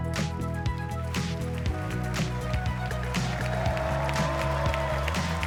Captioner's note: applause